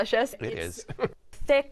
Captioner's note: chuckles